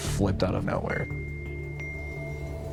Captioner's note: cell phone chiming